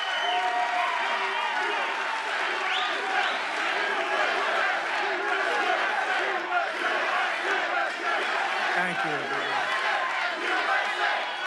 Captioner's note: cheers and applause